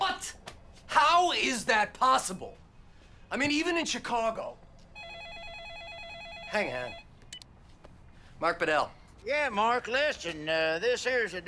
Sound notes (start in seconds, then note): 4.9 telephone rings